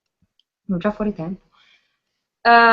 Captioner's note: speaks in different language